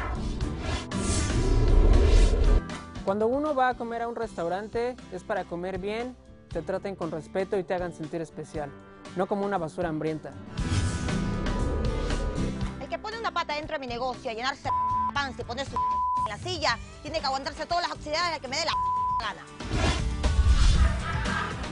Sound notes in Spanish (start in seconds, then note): 15.7 Bip